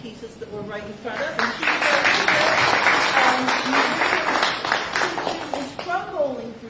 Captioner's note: applause